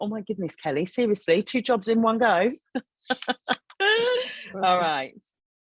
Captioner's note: laughing